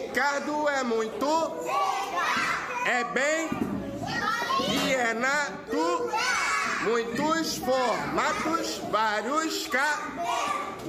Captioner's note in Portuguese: cantarolando